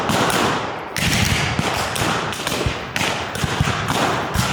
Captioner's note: guns fire